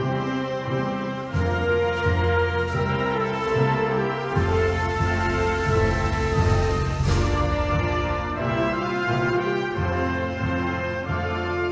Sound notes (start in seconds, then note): none